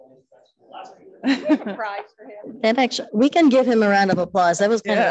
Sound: people mumbling

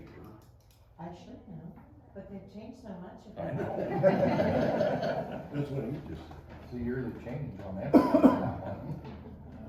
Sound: laughter

